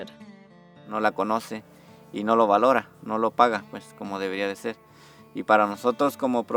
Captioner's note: speaks in a foreign language